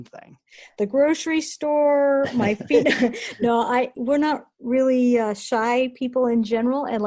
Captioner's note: laughs